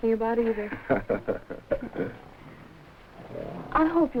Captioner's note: Gorman laughing